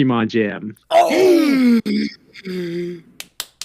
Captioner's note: Jyck & Krais Gasp; Krais clapping